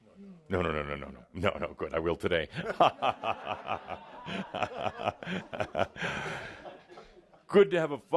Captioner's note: laughter